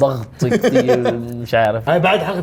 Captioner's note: laughs